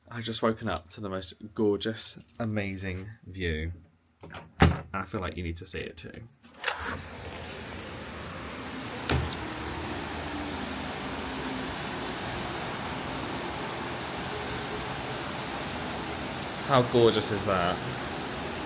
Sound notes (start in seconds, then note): 6.8 water whooshing; 7.3 birds tweeting